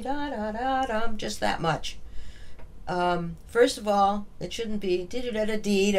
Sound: humming

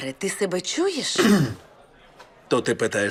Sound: clears throat

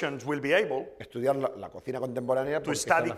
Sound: speaking spanish

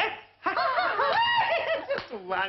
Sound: laughing

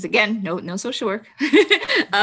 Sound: laughs

